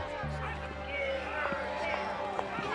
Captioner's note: protesters chanting